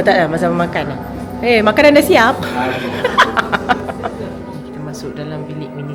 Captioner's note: laugh